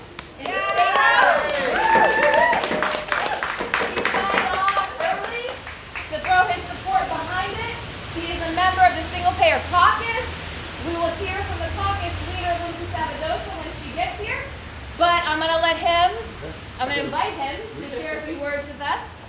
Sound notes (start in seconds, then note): 1.7 applause